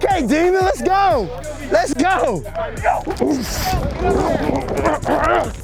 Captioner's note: grunting